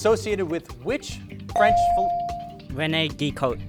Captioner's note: beep